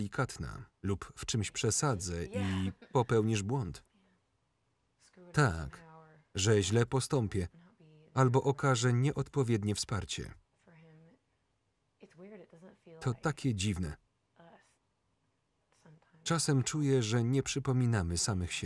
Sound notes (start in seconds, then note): 2.3 laughs